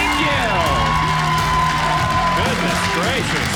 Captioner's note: audience cheering